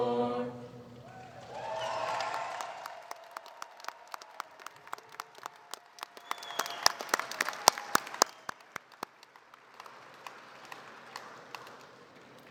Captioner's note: applause